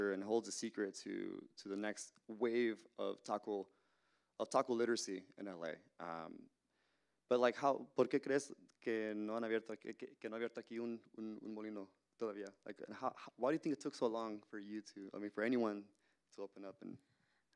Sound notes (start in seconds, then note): 8.0 Spanish language